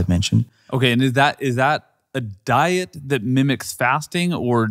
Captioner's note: stammers